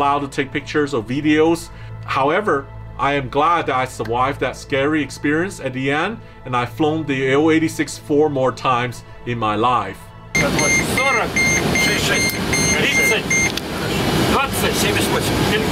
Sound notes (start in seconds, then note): 10.3 air plane engine beeping; 11.2 talking in foreign language